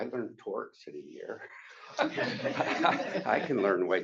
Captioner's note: laughter